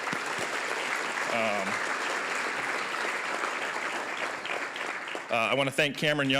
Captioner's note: applause